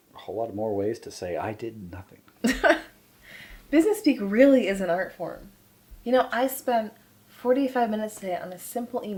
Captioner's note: laughter